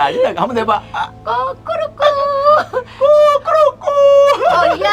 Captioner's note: mimicking chicken sound